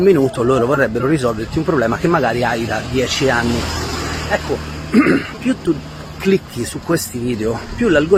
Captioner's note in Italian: schiarire la voce